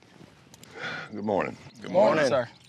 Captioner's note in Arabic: تنهد